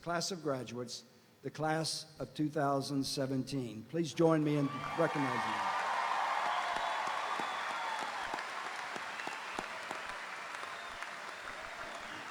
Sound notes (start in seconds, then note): 4.6 audience cheering; 4.6 audience applauding